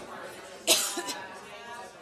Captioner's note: coughs